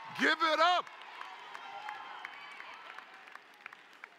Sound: cheering

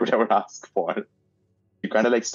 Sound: laughing

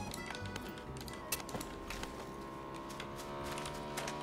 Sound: motorcycle sound

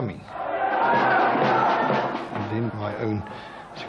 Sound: chanting

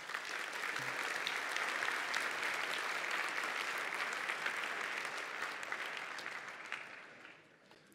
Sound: applause

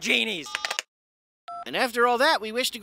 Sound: beeps

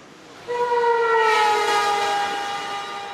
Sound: train whistles

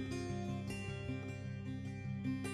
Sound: none

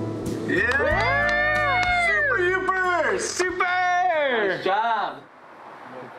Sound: clapping, cheers

